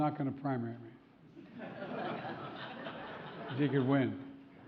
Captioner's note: laughter